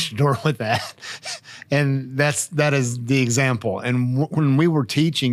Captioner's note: chuckling